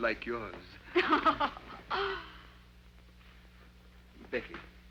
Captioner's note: Becky chuckles